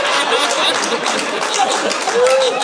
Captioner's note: audience laughing